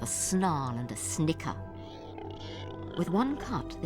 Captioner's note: squealing